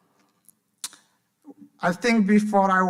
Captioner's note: smacks lips